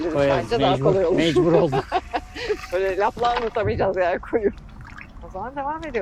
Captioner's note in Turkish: kahkaha